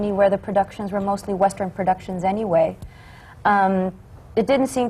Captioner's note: none